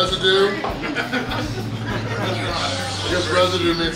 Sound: laughing

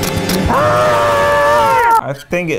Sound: horror music; screaming

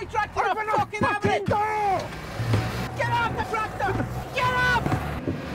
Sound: lots of shouting

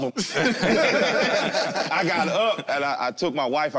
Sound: all laugh

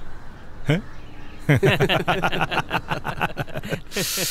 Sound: laughs

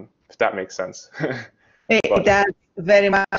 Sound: chuckles

